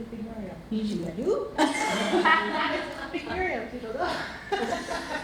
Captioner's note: laughter